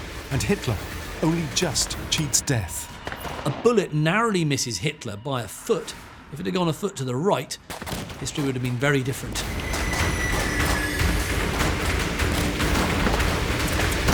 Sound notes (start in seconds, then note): 11.0 rapid gunfire